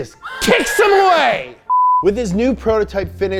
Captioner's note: beep